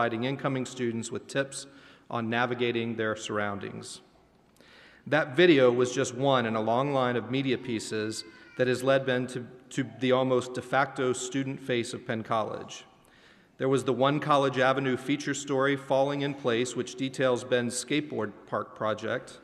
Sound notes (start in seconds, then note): none